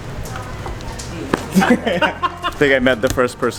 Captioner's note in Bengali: হাসি